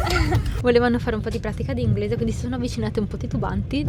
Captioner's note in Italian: risate